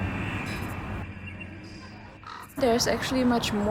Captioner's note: birds chirping; tense music; crows cawing